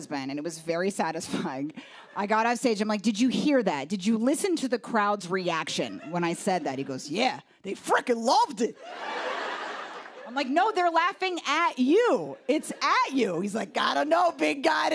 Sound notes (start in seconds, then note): 8.8 laughter